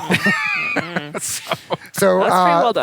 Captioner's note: laughter